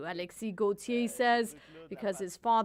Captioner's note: speaking French